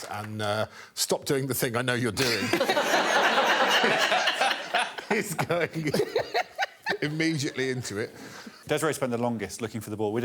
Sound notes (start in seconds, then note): 2.2 laughter